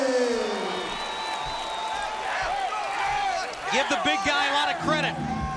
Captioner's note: crowd cheering